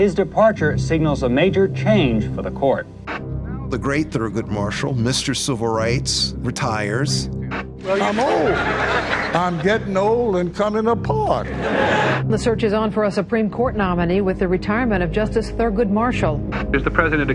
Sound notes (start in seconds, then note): 7.8 audience laughs